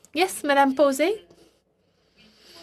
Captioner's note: speaking french